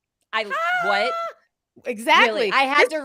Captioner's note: screaming